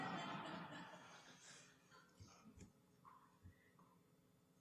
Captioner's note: laughter